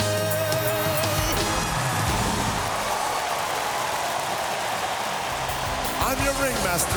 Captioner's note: cheers and applause